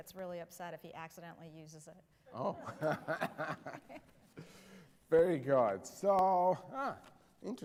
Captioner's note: laughter